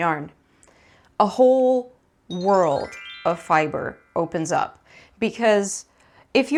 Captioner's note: indicates sparkly noise